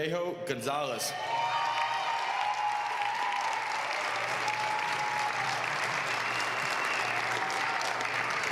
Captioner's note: applause